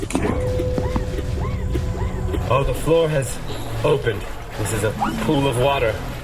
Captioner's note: mechanical noise